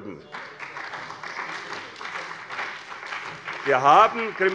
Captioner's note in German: Beifall bei der CDU und dem BÜNDNIS 90/DIE GRÜNEN